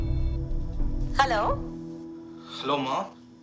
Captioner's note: phone ringing; on phone